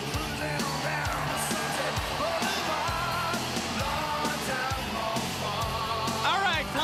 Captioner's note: crowd cheering